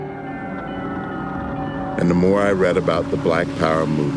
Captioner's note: sirens blaring